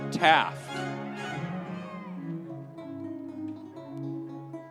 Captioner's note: audience cheering; lively music continues